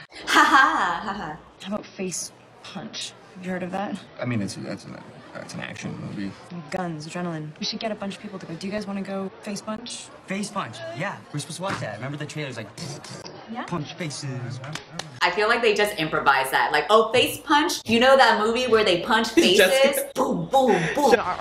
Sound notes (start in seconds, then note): 0.2 laugh in imitation; 4.2 stammers; 13.8 makes fighting noises